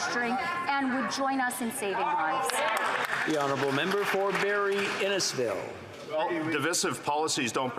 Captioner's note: yelling